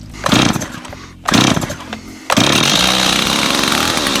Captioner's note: chainsaw starting